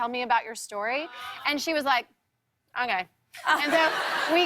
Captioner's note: laughter